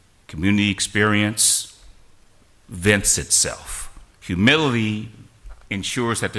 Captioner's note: none